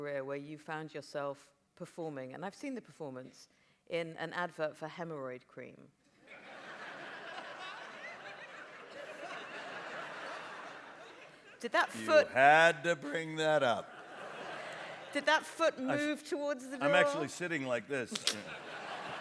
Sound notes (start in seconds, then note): 6.2 laughter